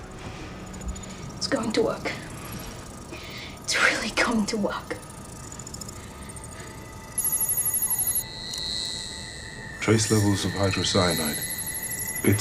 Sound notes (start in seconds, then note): 6.3 gadget beeping